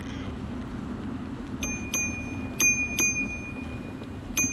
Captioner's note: bike bell